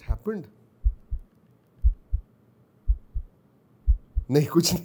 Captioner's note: heartbeats